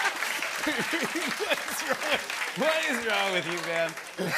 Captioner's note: laughing; laughter; laughter